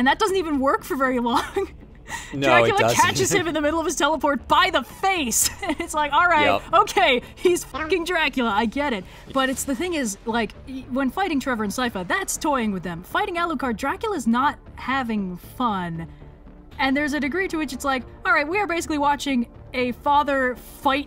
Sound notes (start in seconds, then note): 2.6 laughs; 5.4 laughs